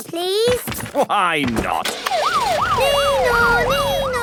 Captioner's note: siren sounding